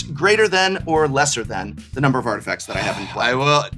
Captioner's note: sighs